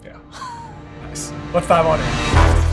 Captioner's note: laughing